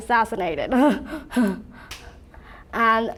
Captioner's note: laughs